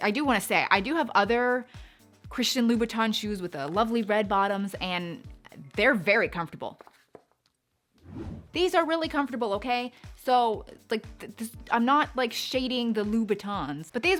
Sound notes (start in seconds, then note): 8.0 swooshing